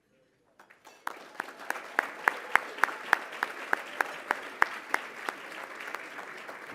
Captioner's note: applause